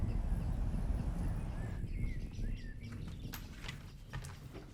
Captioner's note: birds singing